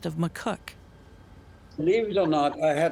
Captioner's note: train track sounds